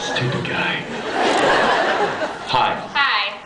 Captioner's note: laughs